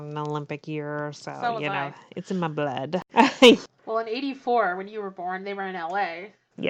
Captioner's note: laughs